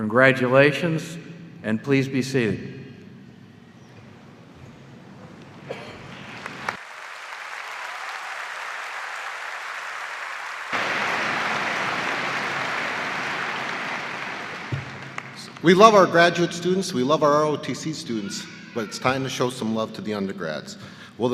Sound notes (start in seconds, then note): 6.0 applause